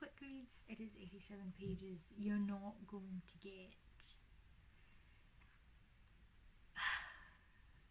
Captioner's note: sighs